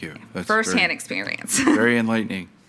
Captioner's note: laughs